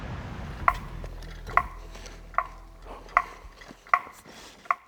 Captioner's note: tool tapping